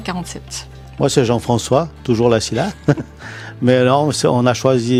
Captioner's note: laughs